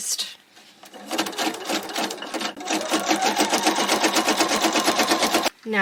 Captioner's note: more sewing machine noise